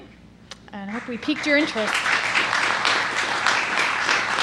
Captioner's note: applause